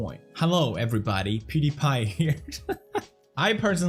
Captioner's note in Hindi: हंसी